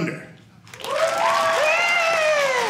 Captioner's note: audience cheering